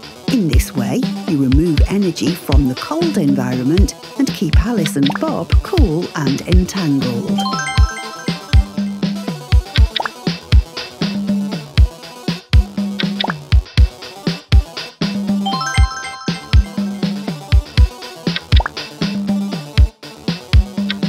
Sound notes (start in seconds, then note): 7.3 point earned sound; 15.4 point earned sound